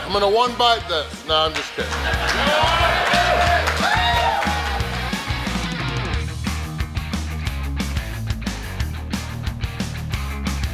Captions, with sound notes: - I'm gonna one-bite this, no, I'm just kidding. (crowd cheering) (crowd applauding)